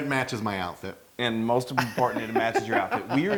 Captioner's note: laugh